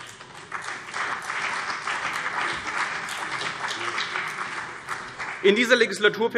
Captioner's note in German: Beifall CDU und BÜNDNIS 90/DIE GRÜNEN